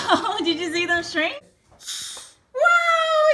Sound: laughs; air blowing

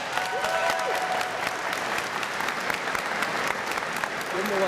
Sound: applause

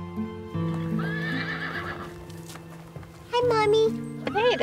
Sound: soft uplifting music; horse whinnying

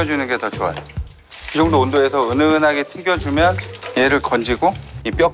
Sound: deep-frying ASMR

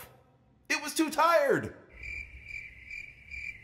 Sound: crickets

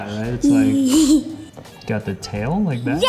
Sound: laughs

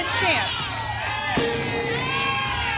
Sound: ping; applause and cheering

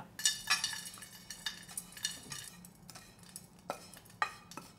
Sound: crispy food against plate

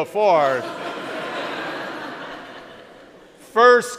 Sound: crowd laughs

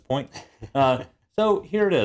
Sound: laugh

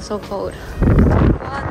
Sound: wind

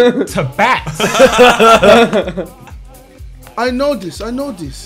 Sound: laughs

